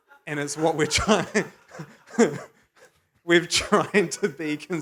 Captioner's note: laughs